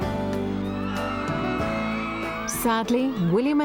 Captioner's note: crowd shouting